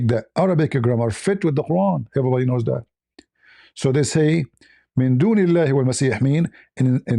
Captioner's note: reads in Arabic